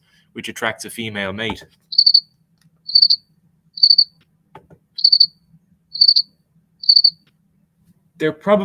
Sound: sound of a house cricket. A high pitched chirp

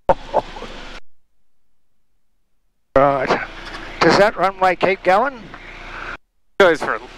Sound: laughing

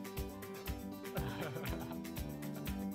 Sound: laughter

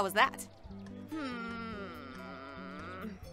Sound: KOTONOHA groans

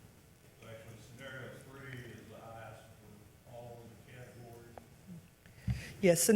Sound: faintly speaking

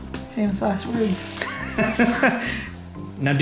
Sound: laughing

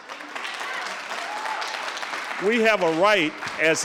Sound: audience cheering

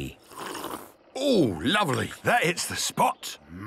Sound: sipping

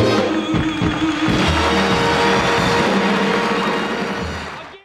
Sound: audience applauding

